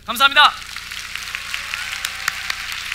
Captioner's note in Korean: 박수